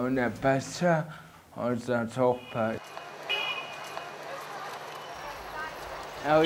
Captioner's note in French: bruits de la rue